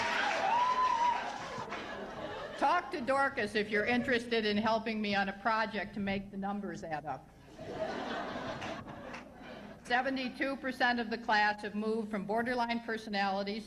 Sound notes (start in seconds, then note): 0.0 laughter; 7.5 laughter